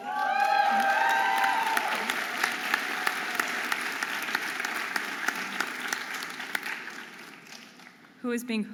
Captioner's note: audience applauding and cheering